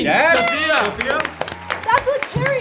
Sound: party horn toots; audience applauding

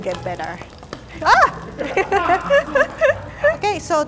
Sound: yells; laughter

